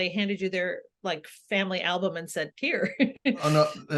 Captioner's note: laughs